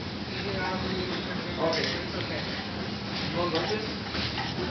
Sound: background chatter

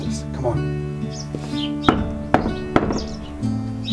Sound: knocking

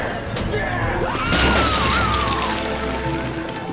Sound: screaming

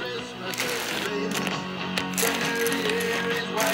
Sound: tiles crackling

